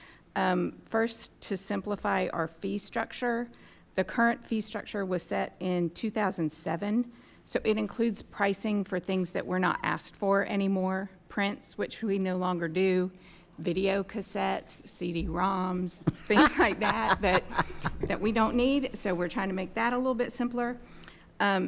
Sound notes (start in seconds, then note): 16.0 laughing